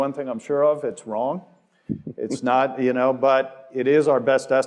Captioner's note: laugh